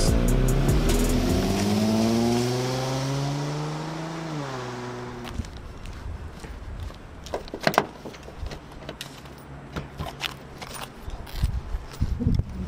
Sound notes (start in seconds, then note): 0.0 car speeding off; 7.4 car door jerking